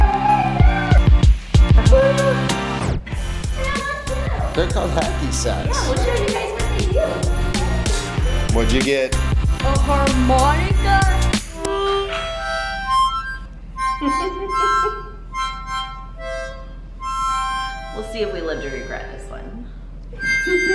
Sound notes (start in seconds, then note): 0.0 upbeat music playing; 13.9 laughing; 20.1 harmonica playing continues